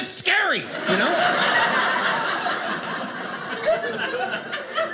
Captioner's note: audience laughing